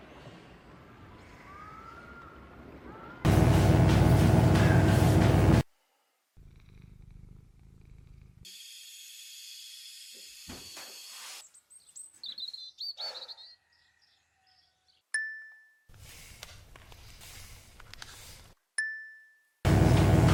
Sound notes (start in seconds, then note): 3.3 electric buzzing; 8.8 gas hissing; 11.5 birds chirping; 15.2 bell dings; 18.8 bell dings